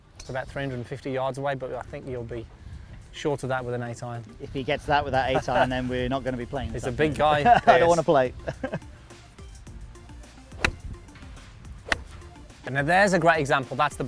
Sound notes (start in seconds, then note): 10.5 sound of golf club hitting ball